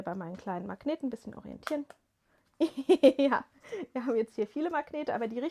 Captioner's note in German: gelächter